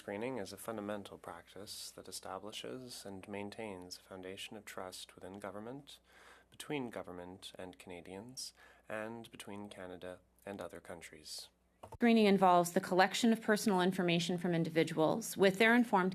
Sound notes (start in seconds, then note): 6.6 speaking French